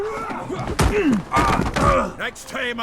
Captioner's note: thud, groaning